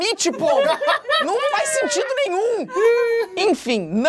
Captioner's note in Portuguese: risadas